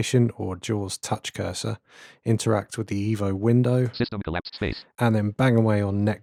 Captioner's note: automated voice